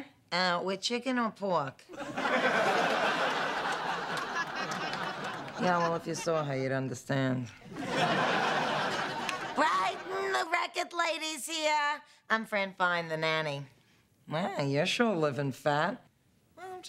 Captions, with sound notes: With chicken or pork? ( laughter ) Yeah, well if you saw her you'd understand. (yelling) Brighton, the record lady's here. I'm Fran Fine, the nanny. Nanny, you're sure living fat.